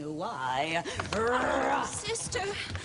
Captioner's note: growls